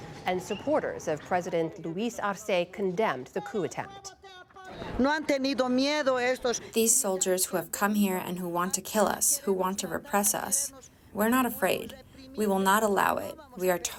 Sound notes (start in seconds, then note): 7.3 through translator